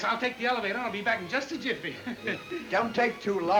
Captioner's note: laughs